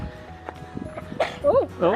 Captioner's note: sneezes